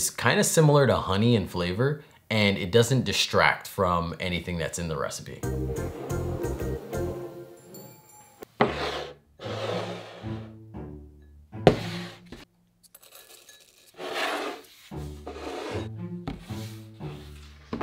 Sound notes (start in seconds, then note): 5.4 quirky music playing; 9.3 bowl sliding; 13.0 food dropping